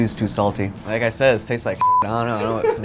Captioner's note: beep